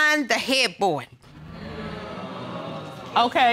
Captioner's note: audience gasps